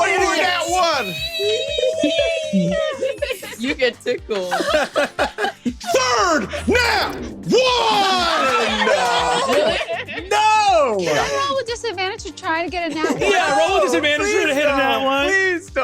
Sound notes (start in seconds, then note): 1.4 screeches; 4.4 laughs